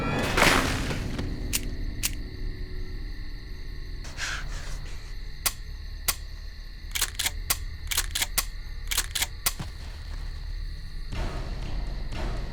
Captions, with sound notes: >>[gunshot] bang! >>[guns click] click, click! click, click! >>[gun cocks and clicks]